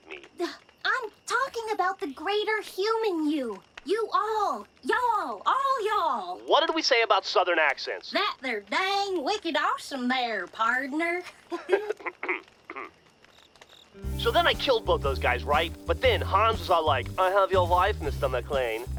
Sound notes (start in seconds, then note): 11.3 Grif and Huggins laugh for a second, Grif awkwardly coughs; 13.9 guitar riff